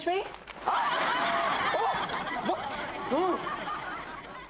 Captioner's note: audience laughs